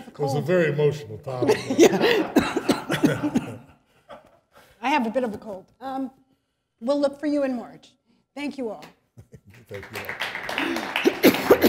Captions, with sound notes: >> Very emotional time. [Laughter] >> I have a bit of a cold. Thank you all. [applause]